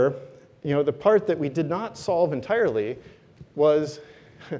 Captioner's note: laugh